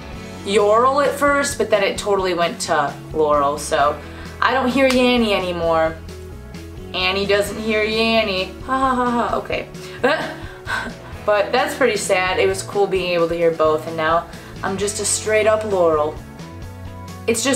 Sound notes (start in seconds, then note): 9.9 fake laughing